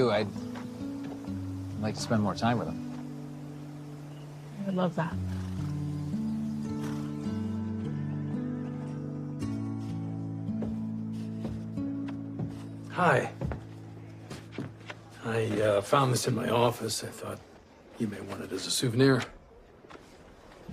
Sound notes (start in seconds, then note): 11.9 footsteps approach